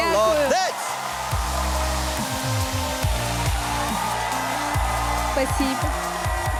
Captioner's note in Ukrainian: оплески